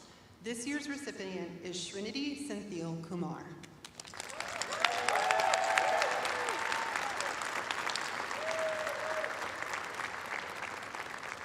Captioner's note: cheers and applause